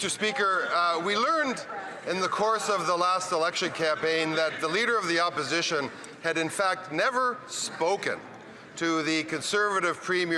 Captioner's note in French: voix de l'interprète